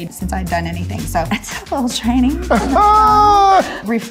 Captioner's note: Jamie yelling